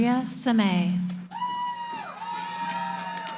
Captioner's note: cheering